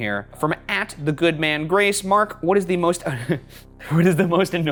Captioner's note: laughs